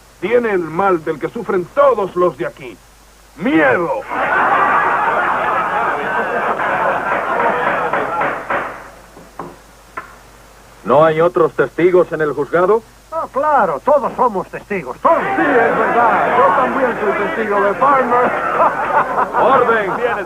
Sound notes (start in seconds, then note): 4.0 laughter; 7.5 gavel pounding